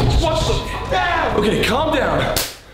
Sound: yelling

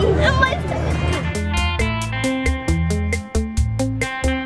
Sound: mutters

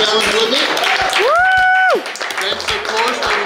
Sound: clapping

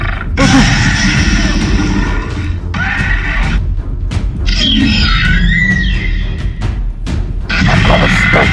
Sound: raptors screeching

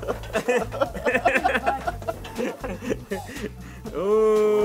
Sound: laughing

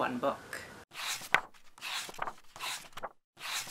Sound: pages turning

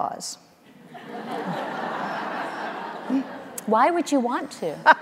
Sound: audience laughing

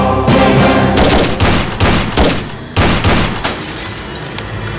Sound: gunshot

